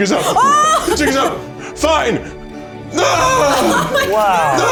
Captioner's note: in puppet voice; in puppet voice